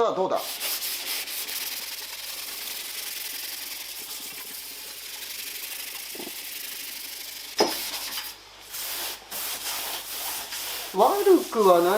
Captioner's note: working sound